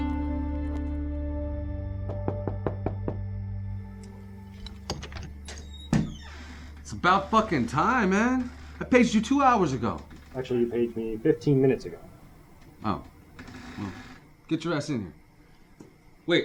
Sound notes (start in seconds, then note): 2.1 door knocking